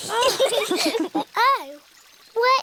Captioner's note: all laugh